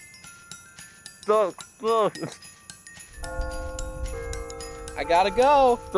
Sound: Bell Tower rings

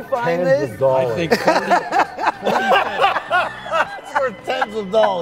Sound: loud laughter

